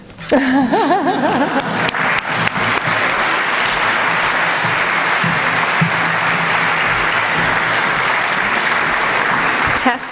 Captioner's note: applause